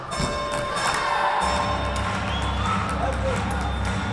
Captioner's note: bell ringing